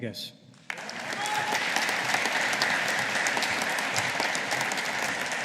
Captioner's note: audience applauding